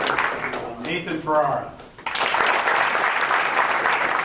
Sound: applause

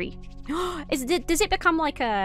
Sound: gasps

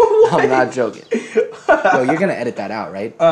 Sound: laughs

